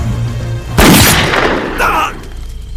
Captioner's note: gunshot